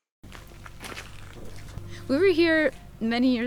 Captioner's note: footsteps crunching